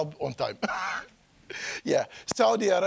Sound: chuckling

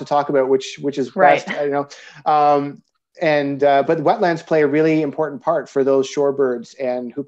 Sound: haha

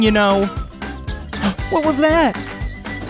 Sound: gasping

